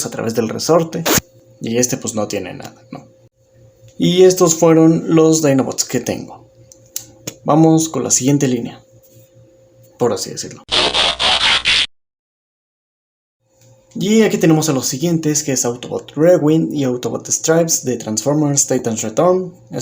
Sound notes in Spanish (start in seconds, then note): 3.2 Silencio; 8.9 Silencio; 10.7 Sonido de transformación; 12.1 Silencio